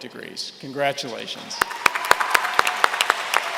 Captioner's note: applause